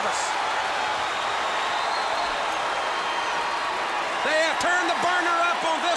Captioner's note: crowd cheering